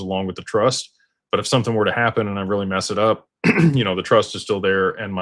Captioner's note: clears throat